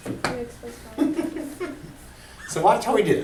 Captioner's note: voiceover